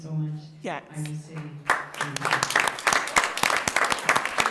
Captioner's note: audience applauds